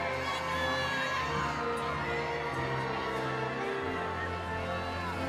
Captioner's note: audience cheering